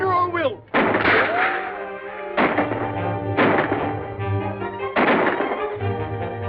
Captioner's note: gunshots